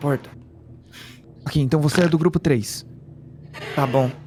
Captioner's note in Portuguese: Risos